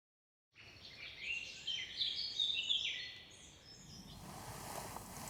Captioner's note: birds twitter